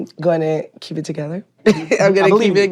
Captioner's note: laughs